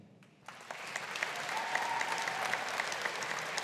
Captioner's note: audience applauding